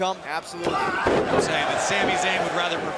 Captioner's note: crowd cheering